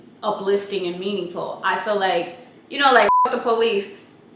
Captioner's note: beep